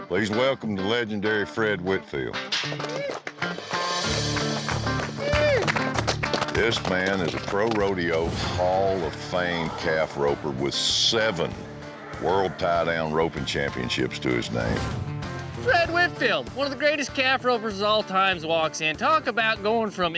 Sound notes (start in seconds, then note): 2.1 applause